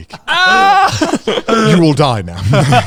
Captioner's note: screams